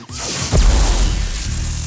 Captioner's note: zap